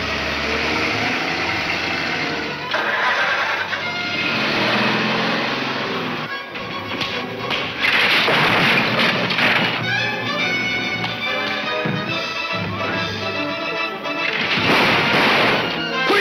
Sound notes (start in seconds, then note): 6.0 clattering; 6.9 smacking; 14.2 gun firing